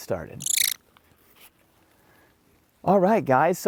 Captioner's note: American Kestrel screeching